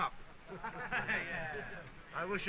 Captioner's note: laughs